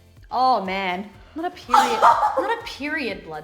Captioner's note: laughs